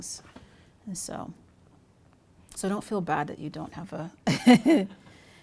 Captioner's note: chuckles